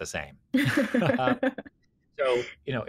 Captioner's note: laugh